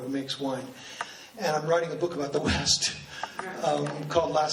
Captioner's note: laughs